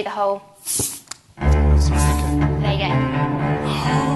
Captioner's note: spraying